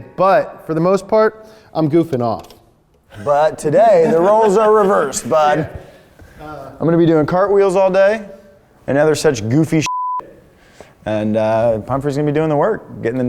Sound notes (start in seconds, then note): 9.8 beep